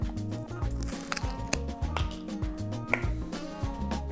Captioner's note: crunching